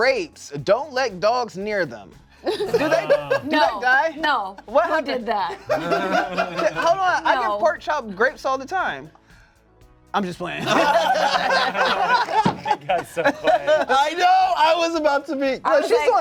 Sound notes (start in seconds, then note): 5.6 laugh; 10.6 cast laughs